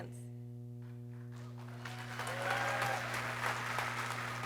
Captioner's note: people cheering